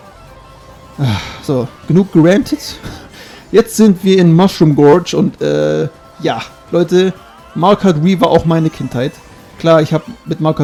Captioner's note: sigh